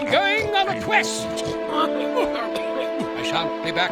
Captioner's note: choking